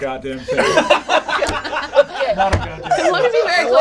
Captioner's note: all laugh